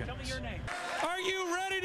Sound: cheers

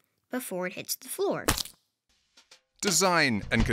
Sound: sandwich splatting

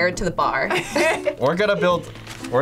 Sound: both laugh

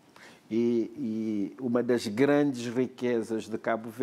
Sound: speaking portuguese

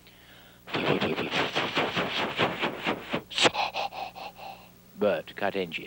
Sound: imitates engine

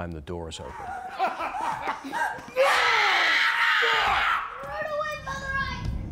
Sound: murderers laughing; Lady Macduff screaming

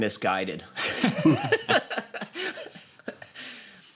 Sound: laughter

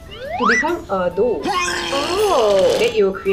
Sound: disgusted

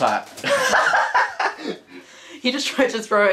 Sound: laughs

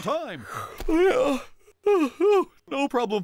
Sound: yawns

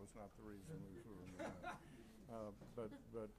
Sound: laughing

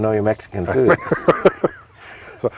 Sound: laughing

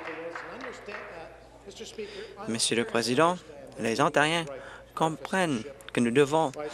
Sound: applause

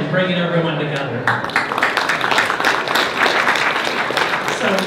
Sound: applause

